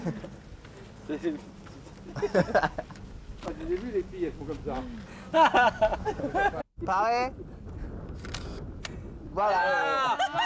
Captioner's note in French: rires; rires